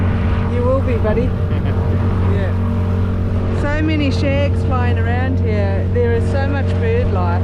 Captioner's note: laughs